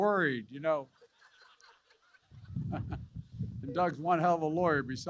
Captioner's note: laughter